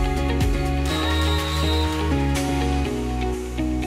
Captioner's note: whistle blows